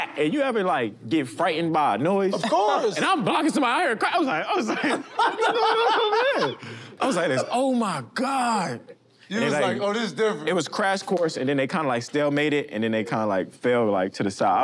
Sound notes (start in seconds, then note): 4.6 laughter